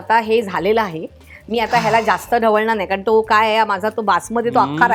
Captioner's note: deep Breath